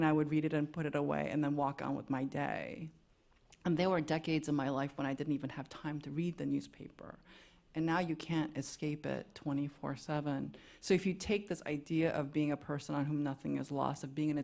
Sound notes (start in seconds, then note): none